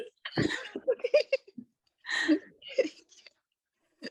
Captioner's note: laughing